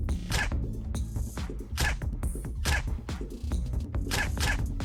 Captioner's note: gun banging